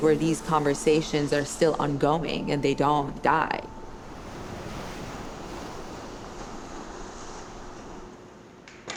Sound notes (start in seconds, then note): 3.8 water whooshing